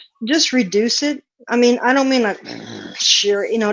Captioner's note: grunts